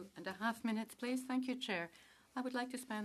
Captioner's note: speaking French